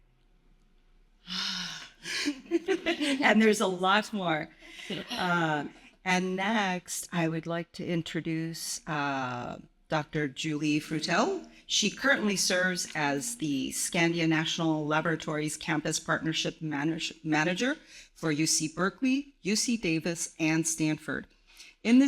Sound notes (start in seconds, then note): 1.2 sighing; 2.2 audience laughing